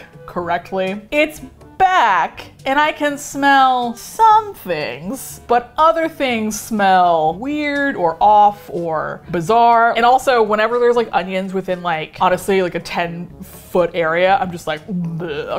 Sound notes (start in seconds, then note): none